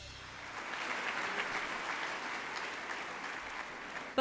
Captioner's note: applauding